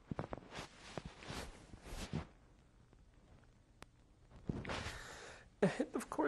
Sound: sobbing

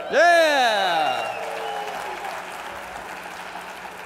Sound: cheers and applause

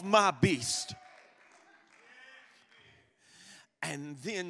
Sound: congregation applauding

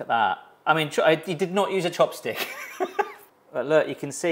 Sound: laughs

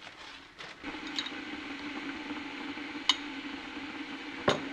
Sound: water boiling

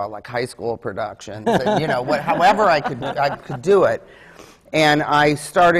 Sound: laughs

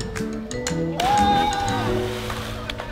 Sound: silly music; cheering; splash

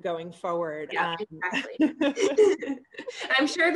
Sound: both laughing

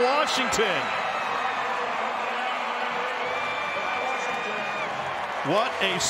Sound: crowd

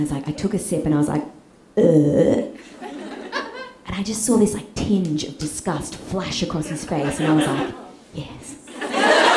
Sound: burp

